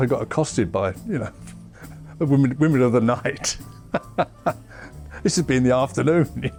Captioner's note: laughs